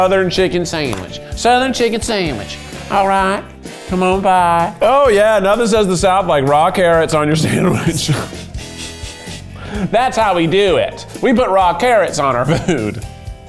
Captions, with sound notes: This is the southern chicken sandwich. Southern chicken sandwich. (upbeat music) All right, come on by. Oh yeah. Now this has the south like raw carrots on your sandwich. (laughs) That's how we do it. We put raw carrots on our food.